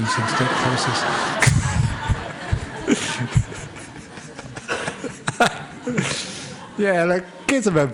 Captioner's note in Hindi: हँसी